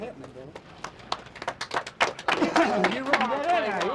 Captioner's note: workers clapping